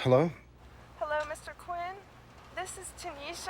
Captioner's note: on phone